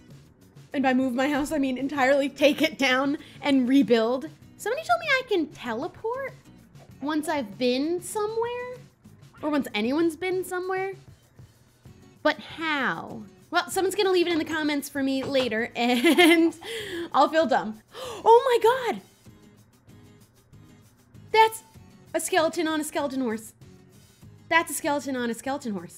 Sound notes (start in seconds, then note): 17.9 gasp